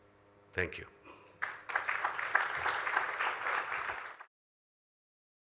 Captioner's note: applause